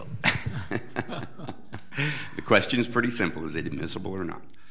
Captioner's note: laughs